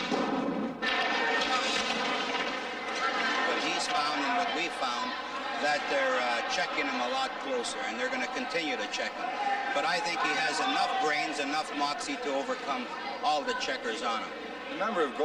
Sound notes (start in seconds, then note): 2.9 audience cheering; 2.9 skates scraping